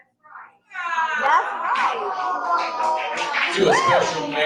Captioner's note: audience reacts - aww